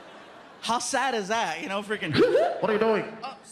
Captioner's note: siren chirps